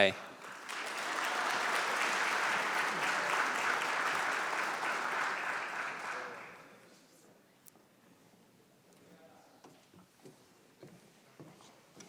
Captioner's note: applause